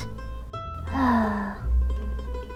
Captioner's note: sigh